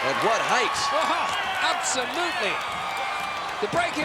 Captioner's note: audience cheering